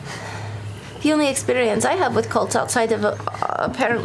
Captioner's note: sighs